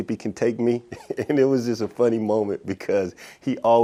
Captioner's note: laughs